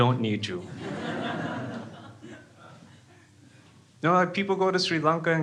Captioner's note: crowd laughs